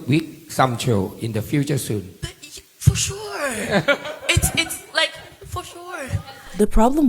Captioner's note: laughing